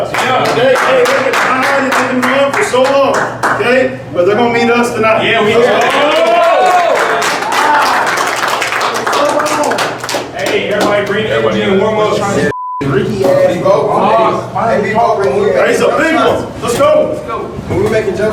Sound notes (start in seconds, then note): 5.6 cheering and clapping